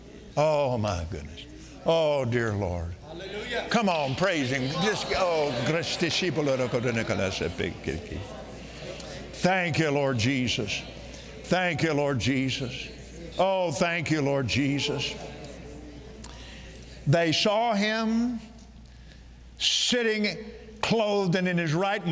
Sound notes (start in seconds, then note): 5.2 speaking in tongues